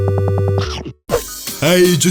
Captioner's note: chomp